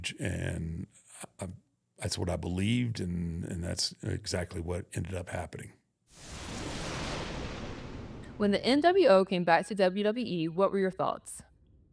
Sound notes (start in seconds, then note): 6.2 thunder rumbles